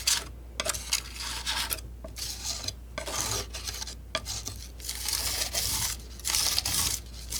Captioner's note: scratching